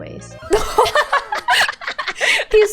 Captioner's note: laughs